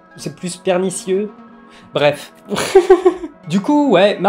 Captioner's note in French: rire